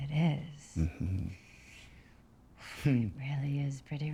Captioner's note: chuckles